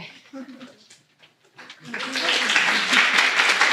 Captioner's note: applause